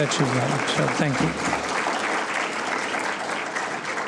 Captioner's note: applause